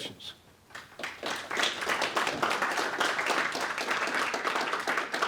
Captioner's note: audience applauding